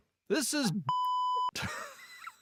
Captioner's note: beep